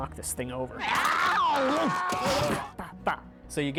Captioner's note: groans